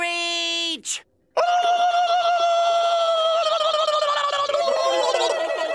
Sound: screaming

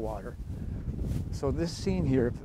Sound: whooshing wind

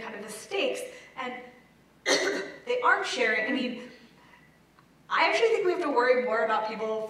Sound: cough

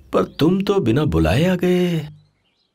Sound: none

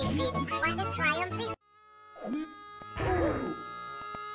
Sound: distant screams of pain and torture

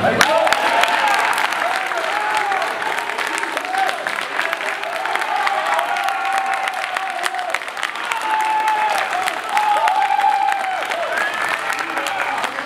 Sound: cheers

